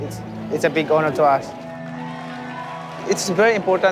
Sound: cheers and applause

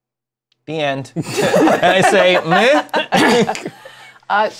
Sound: laughtr

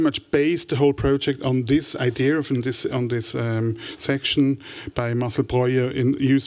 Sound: french

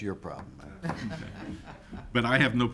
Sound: laughs

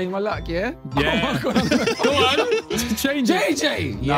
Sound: everyone laughing

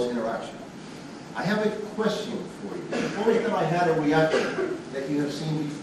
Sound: student coughing

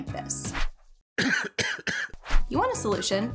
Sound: man coughs

